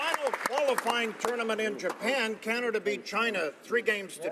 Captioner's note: applause